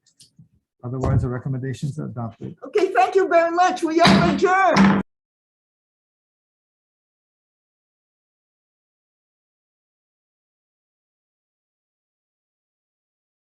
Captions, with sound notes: Otherwise the recommendations are adopted. Okay, thank you very much. We are adjourned. (gavel banging)